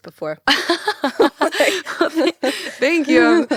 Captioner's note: both laughing